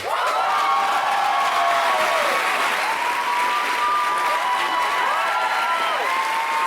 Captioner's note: applauds loudly